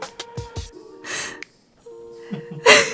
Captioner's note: laughs; giggles some more